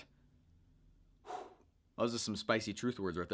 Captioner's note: exhaling